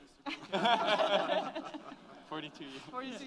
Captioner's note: laughs